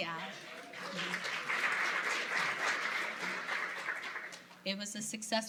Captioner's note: applause